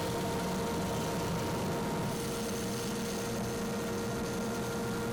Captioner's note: lathe whirring